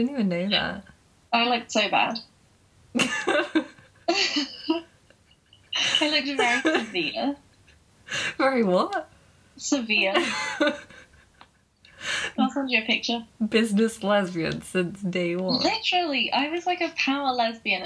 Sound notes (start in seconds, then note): 3.0 laughing